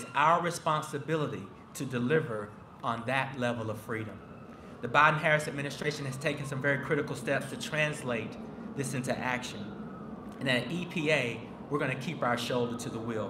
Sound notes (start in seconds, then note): none